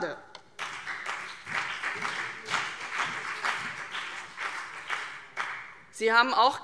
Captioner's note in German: Beifall CDU und BÜNDNIS 90/DIE GRÜNEN